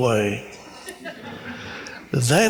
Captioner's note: audience laughs